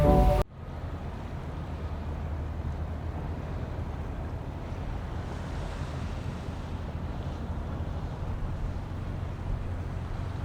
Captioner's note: music and crashing waves cease abruptly, leaving the sounds of a quiet harbor